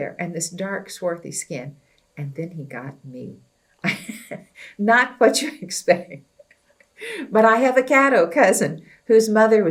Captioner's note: laughs